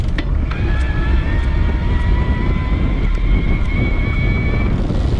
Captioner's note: bicycle motor spinning